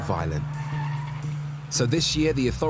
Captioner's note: car tires screeching